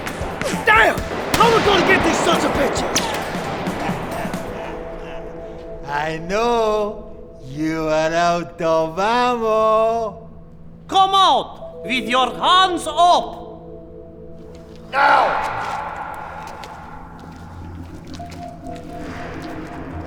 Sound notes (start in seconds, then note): 4.2 laughing; 18.1 dramatic music